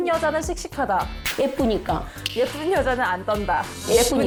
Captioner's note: snap sound effect; thud sound effect